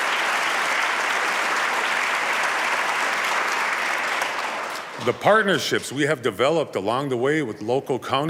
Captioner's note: applause